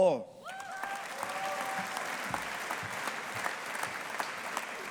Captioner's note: audience applauding